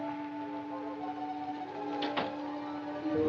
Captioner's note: door closes